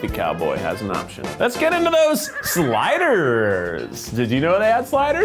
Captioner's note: horse whinnying